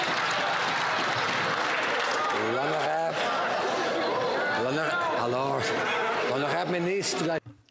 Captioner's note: some Applause